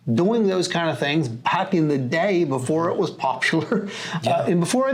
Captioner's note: laughs